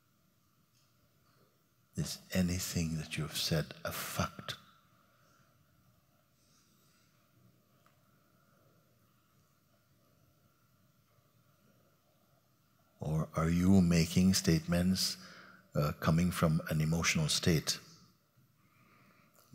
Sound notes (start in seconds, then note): 8.7 silence